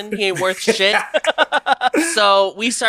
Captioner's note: laughs